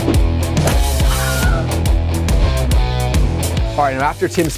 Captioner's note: man screaming